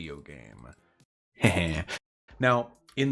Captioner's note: righteous chuckle